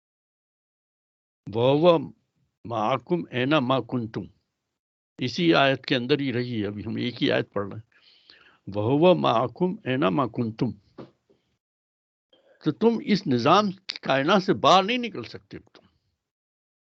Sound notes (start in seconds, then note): 0.7 recites arabic; 9.1 recites arabic